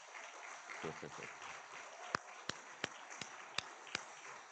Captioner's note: all clapping